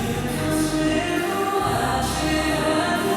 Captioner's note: slipping